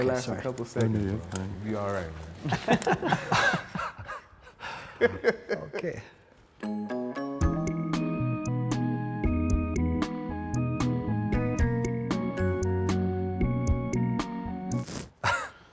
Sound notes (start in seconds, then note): 0.3 group chattering; 3.5 sighs; 6.6 upbeat music